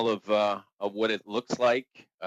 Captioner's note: speaking French